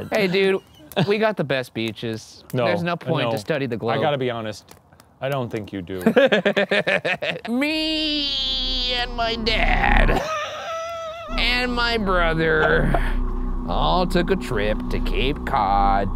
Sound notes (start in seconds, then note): 5.9 laughs; 10.0 chuckles